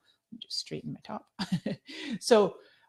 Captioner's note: chuckling